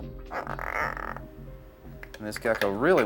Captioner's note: gecko croaking